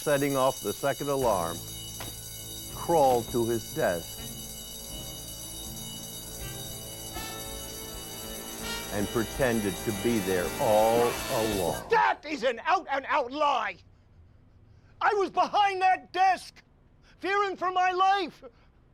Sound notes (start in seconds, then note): 5.0 alarm blaring; 5.0 suspenseful music